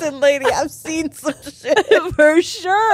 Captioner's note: all laughing